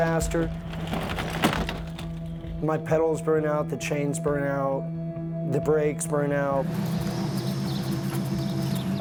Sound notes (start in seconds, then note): 1.7 bike riding past